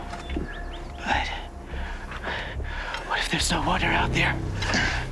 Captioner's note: says in a weak voice